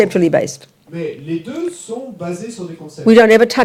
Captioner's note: audience member speaks in French